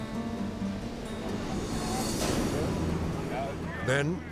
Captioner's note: gentle guitar music; waves crashing